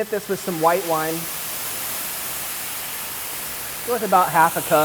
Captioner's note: sizzling